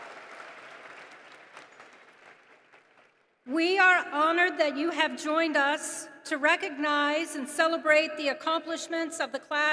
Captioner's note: applause